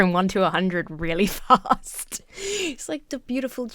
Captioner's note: laughs